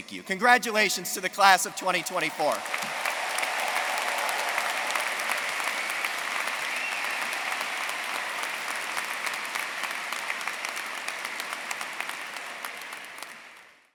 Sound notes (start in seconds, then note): 3.1 everyone cheering and applauding